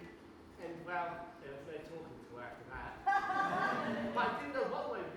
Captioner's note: audience laughs